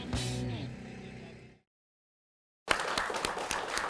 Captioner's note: applause